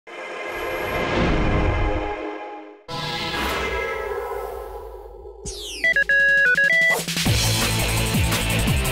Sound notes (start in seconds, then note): 5.6 beeping; 7.5 theme music